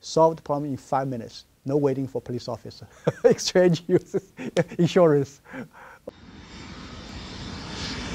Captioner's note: laughs